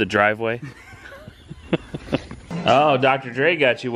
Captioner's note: laugh